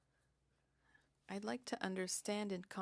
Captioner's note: speaking French